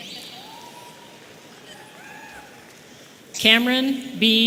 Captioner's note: audience cheering